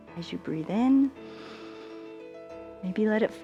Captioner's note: inhales